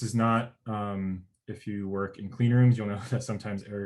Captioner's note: murmurs